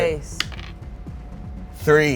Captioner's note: die rolls